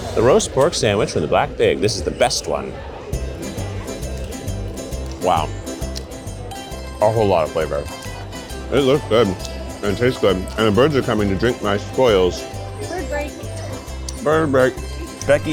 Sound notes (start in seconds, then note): 3.2 teeth gnashing